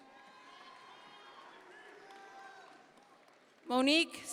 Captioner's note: audience members cheer